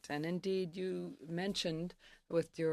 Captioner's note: speaking French